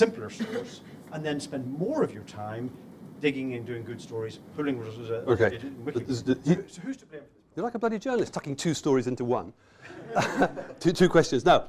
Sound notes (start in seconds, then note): 9.8 laughter